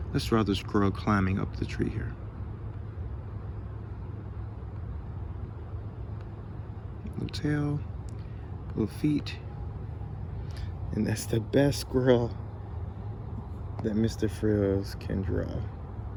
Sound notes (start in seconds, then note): none